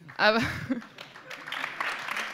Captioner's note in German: Applaus